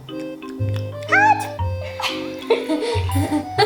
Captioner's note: laughter